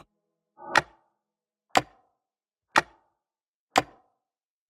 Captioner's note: clock ticking